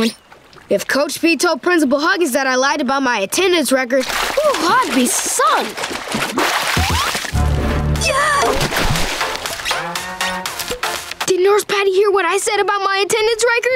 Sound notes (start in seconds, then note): 5.7 splashing; 7.6 shrieking